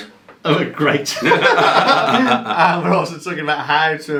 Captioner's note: laughing